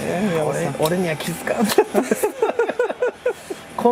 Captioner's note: laughs